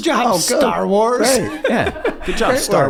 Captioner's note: Rob laughs